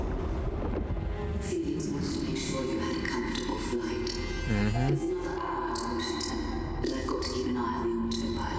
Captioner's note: distorted voices